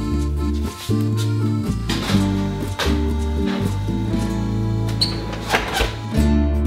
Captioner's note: oven door shuts